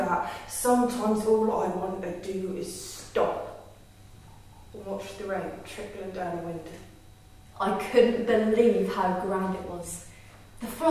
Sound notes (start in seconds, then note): none